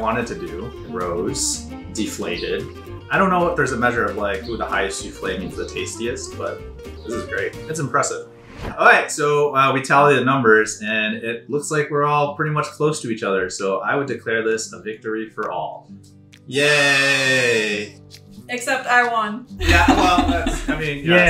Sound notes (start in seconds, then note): 16.9 children cheer; 19.6 laughs